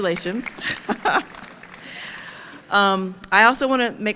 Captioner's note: audience applauding; chuckles